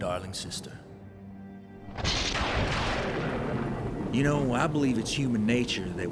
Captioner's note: thunder